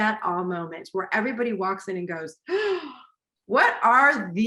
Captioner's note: gasp